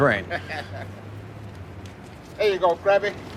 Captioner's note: chuckles